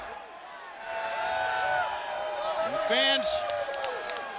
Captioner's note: audience booing